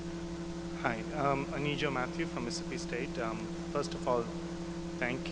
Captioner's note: voiceover